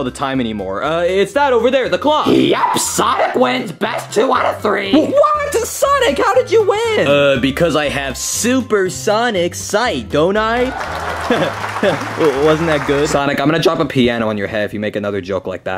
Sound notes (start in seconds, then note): 10.6 attendees applaud